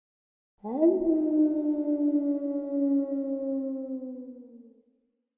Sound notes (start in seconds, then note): 0.6 wolf howling